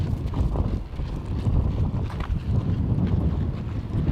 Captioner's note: wind whooshing